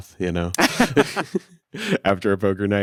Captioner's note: both laughing